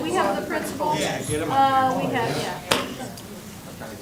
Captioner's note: crowd talking indistinctly